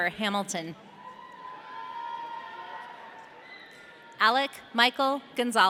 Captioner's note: audience cheering